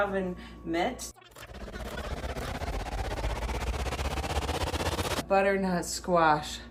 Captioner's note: audio fast-forwarding